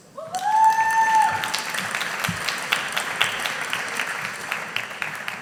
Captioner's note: audience applauding